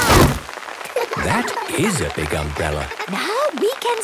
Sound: laughter

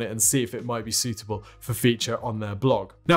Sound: none

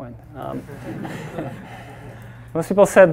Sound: all laughing

